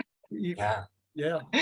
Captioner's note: chuckles